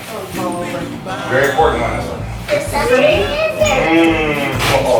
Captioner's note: kids shuffling around